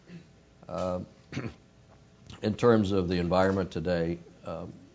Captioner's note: cough